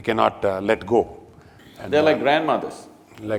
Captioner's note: laughter